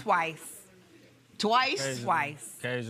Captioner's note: normal voice